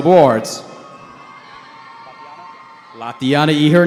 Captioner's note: cheering